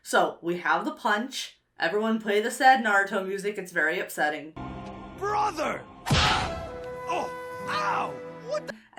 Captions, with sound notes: So we have the punch. Everyone play the sad Naruto music. It's very upsetting. - Brother! (fist smacks) (sad music) Ow! What the...?